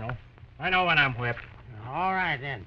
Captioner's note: slurring